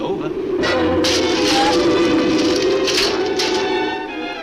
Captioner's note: dark orchestral music; debris clatters